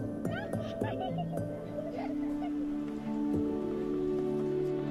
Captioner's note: children laughing